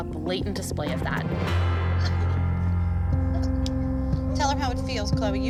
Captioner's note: crying